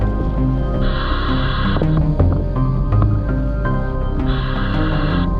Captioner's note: sound of breathing